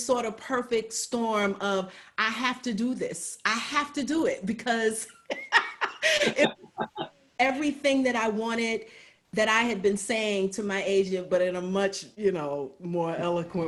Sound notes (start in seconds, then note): 5.2 laughs